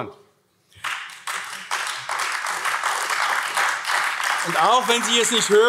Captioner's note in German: Beifall AfD